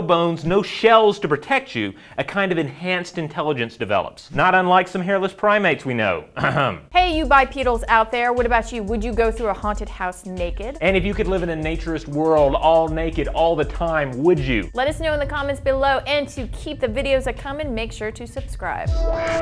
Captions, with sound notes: no bones, no shells to protect you, a kind of enhanced intelligence develops. Not unlike some hairless primates we know. (suggestive coughing) - Hey you bipedals out there, what about you? Would you go through a haunted house naked? - And if you could live in a Naturist world all naked all the time, would you? - Let us know in the comments below, and to keep the videos a comin', make sure to subscribe.